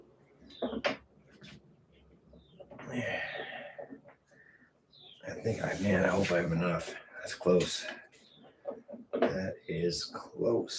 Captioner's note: sighs